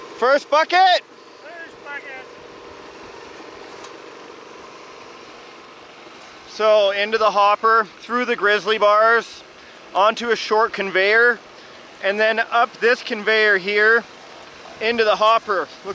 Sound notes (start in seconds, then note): 3.4 machine roars